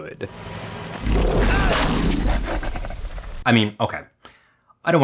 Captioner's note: monster roaring